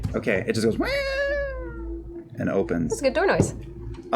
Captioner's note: creaking